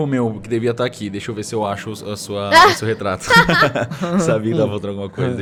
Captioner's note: laughter